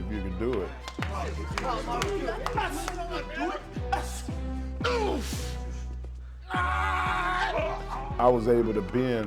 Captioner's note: applause